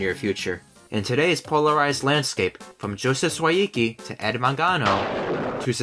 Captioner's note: thunder